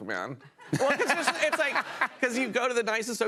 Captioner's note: laughter